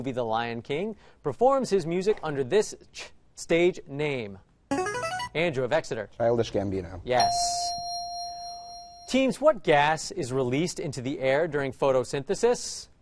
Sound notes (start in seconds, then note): 4.8 answer bell; 7.2 correct answer chime